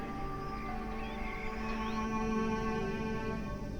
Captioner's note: birds chirping; somber suspenseful music